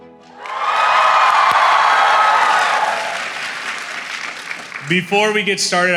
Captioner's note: applause